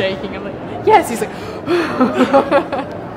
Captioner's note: sigh; laughing